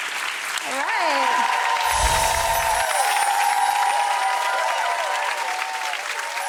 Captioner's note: audience applauding